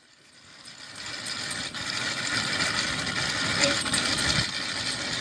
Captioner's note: tape rewinding